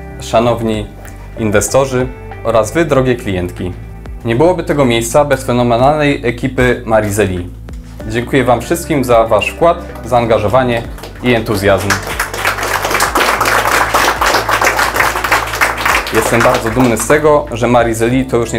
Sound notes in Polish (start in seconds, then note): 13.6 oklaski